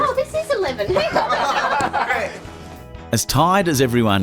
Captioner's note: laughs